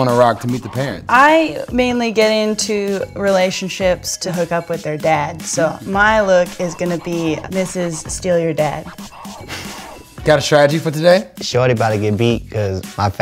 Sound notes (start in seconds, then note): 8.7 laugh